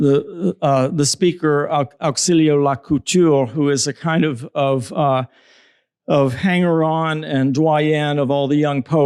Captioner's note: spanish